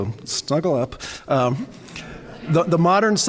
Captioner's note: laughter